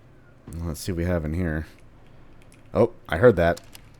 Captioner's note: distant doors opening